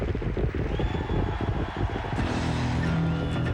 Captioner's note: hooves pounding